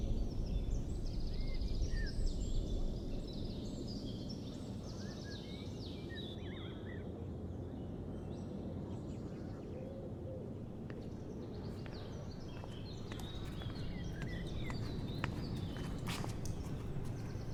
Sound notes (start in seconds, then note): 1.1 birds chirping